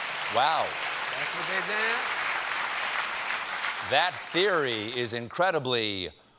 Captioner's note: applause